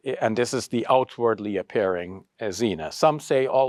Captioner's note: speaks Arabic